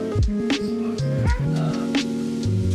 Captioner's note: meow